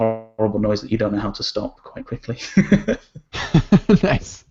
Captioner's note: laughs